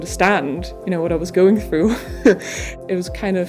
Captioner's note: laughs